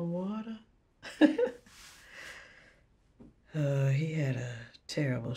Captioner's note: chuckles